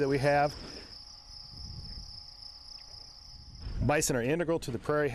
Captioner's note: crickets chirping